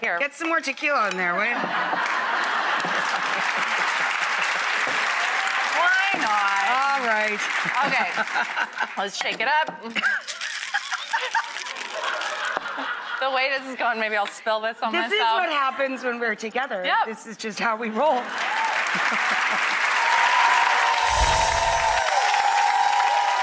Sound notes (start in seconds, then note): 1.5 audience laughs and applauds; 9.9 laughing; 18.2 audience applauds and cheers